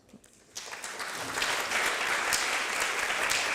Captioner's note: applause